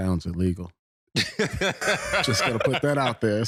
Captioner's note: all laughing